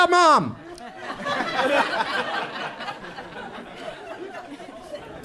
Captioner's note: audience laughs